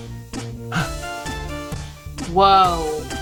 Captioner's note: gasps